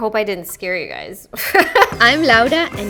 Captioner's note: laughing